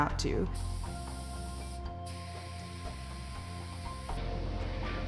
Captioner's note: machine whirring